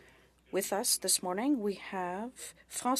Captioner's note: speaking French